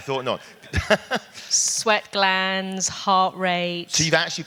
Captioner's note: laugh